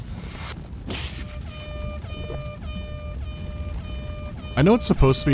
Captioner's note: repeating airhorn sound